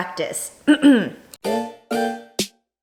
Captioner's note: clears throat